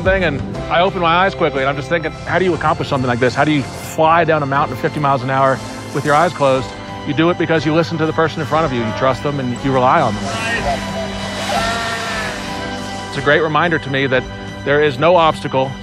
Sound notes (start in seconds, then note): 11.2 yelling